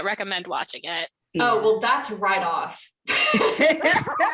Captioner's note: laughter